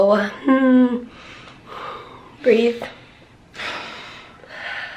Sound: deep breath

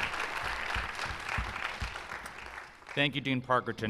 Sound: applause

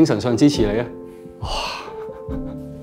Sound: sigh of relief; laughs softly

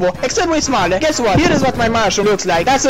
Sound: Bob-Bomb Explosion

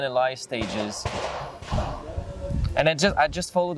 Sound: gunfire popping

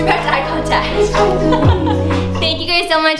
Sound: laughs

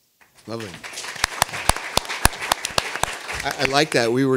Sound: audience applauding

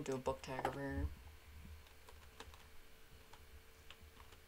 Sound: keyboard typing

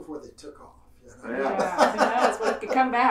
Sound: laughing

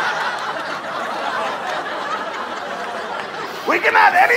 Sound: audience laughter

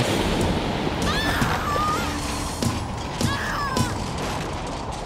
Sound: screams

